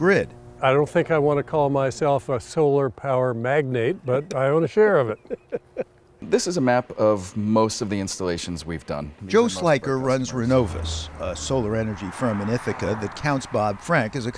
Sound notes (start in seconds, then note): 4.9 laughter